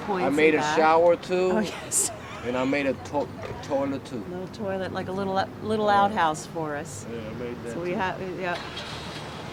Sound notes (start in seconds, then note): 1.5 laughs